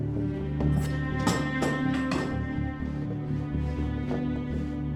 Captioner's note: clattering